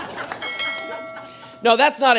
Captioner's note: audience laughing